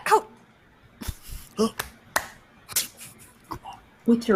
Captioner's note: claps